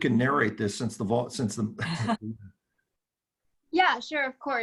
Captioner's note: laughing